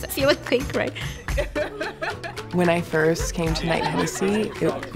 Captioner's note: laughing